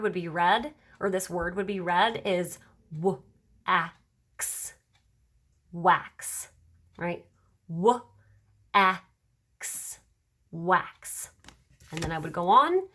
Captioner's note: sounding out words